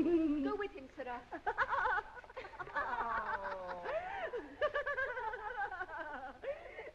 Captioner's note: girls giggling